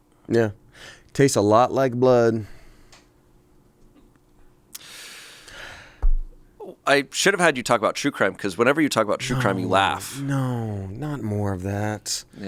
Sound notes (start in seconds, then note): 4.7 inhales